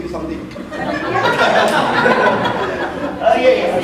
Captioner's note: audience laughing